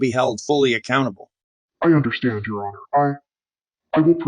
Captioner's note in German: verzerrt